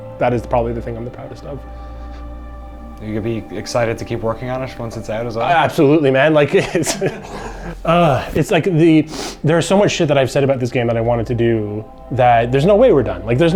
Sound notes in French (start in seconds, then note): 6.7 en riant